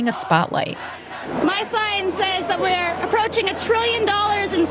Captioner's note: soundbite of archived recording